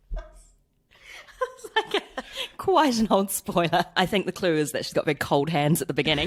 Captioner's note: laughs